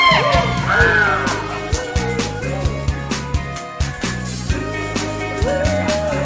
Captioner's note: humming along from the start